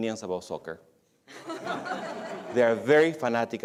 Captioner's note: laughter